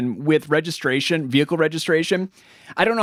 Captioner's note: none